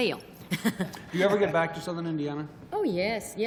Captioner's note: chuckles